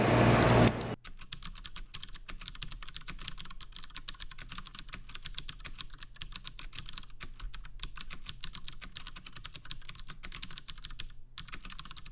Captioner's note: typing sounds